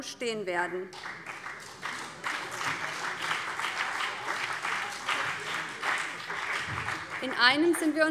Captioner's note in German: Beifall BÜNDNIS 90/DIE GRÜNEN und CDU